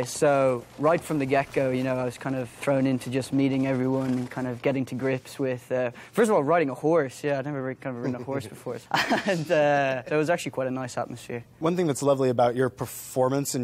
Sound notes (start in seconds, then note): 8.8 gleeson laughs; 8.9 laughing